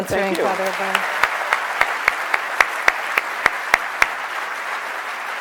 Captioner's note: audience clapping